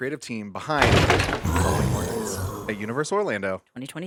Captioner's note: creature roars